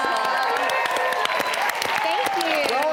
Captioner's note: audience cheering